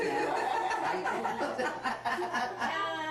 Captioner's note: laughter